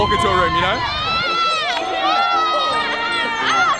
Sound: cheering

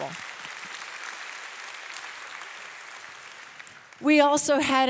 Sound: audience applauding

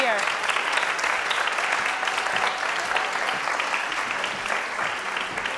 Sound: audience applauds and cheers

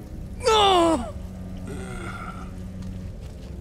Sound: he grunts; Iroh moans

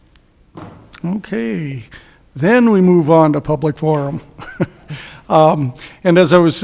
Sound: laughs

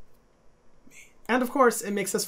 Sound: whispers

